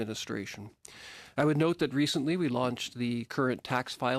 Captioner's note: speaking english